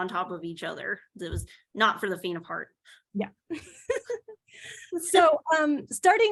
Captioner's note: laughs